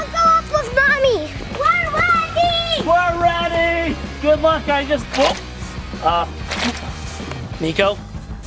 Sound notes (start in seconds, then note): 6.5 mud squishing